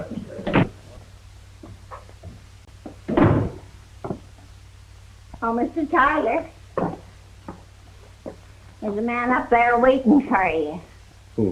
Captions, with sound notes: (door slams) - Oh, Mr. Tyler. There's a man up there waiting for ya.